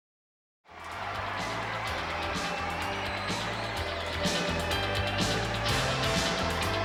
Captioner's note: fans cheering; upbeat music